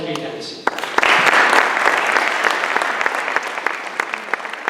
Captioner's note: applause